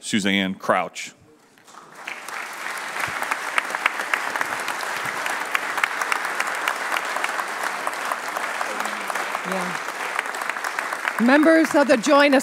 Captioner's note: applause